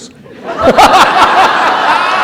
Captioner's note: laughter